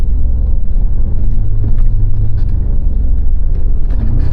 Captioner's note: engine rumbling